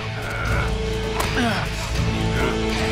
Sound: grunting

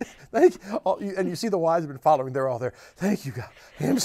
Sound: laughs

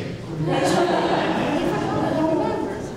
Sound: audience laughter

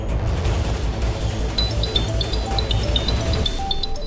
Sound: phone ringing

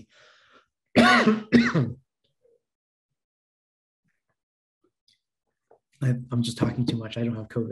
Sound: coughing

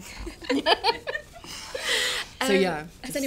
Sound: laughter

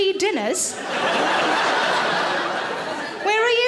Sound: audience laughs

